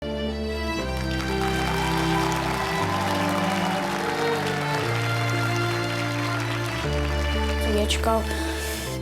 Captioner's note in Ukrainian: оплески